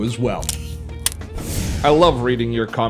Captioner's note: gun clicking and firing